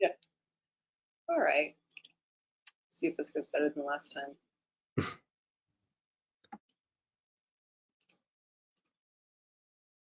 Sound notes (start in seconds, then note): 5.0 laughs